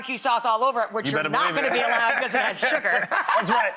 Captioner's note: laughs